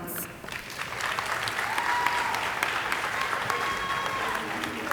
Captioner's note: audience applauding